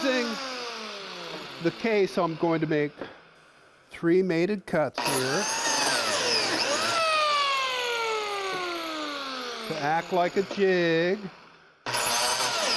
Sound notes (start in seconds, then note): 6.9 cutter whirring